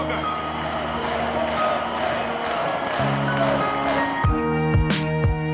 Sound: crowd chanting "Deontay"

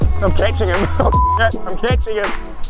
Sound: beep

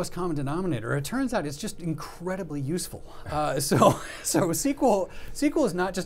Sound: laughs

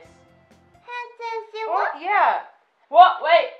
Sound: babbling

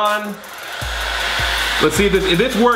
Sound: blow dryer whirring

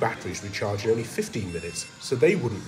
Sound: battery beeps

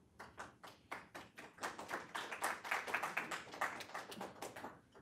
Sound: audience applauding

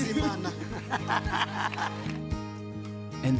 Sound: laughter and applause

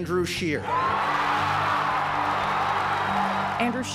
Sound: cheers

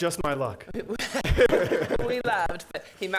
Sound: laughs

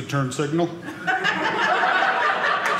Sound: audience laughing

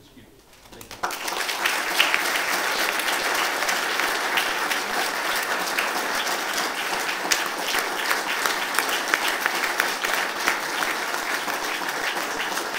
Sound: applause

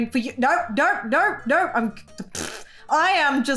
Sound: blows raspberry

